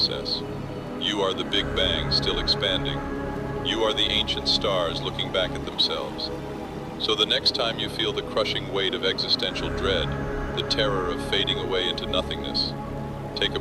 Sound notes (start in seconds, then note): 3.2 breath